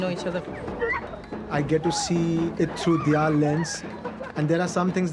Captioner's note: laughing